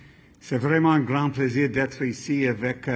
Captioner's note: speaking french